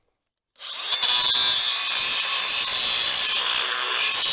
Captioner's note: grinder grinding